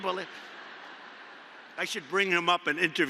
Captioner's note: laughter